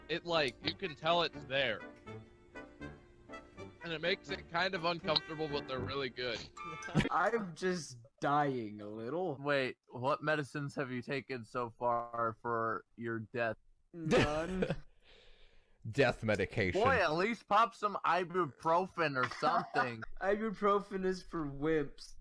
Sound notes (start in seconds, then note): 14.6 laughs; 19.2 laughs